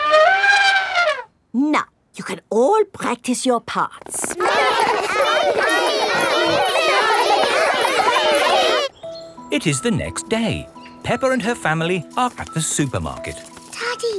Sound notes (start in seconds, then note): 0.0 trumpets; 4.1 all laughing and chattering